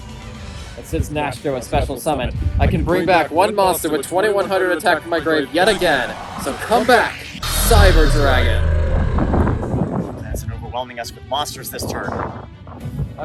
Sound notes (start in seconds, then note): 8.0 cyber dragon growls